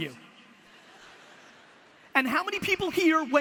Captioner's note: audience laughter